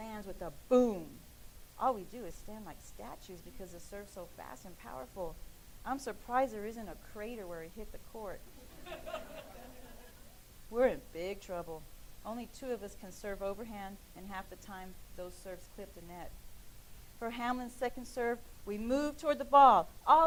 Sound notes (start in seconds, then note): 8.6 laughing